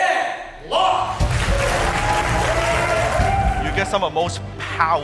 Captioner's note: cheers